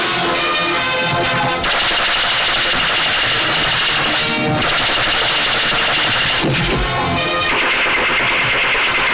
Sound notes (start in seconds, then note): 1.7 hand Machine Gun Firing